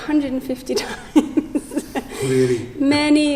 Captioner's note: laughs